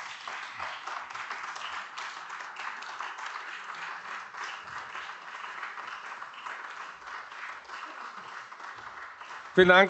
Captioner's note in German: Anhaltender Beifall AfD